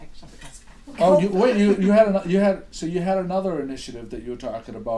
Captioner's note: voiceover